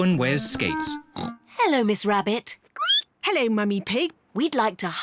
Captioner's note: snorts; squeaks